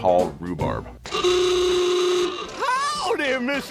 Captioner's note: horn honks